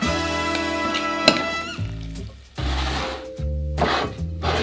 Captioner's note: spoon stirring